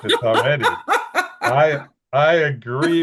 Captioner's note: laughing